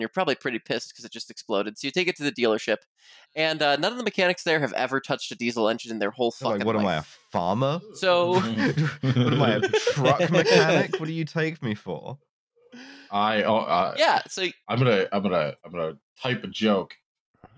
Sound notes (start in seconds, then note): 8.3 laughter